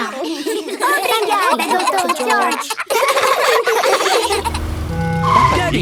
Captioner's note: laughs